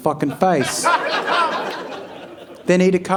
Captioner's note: audience laughing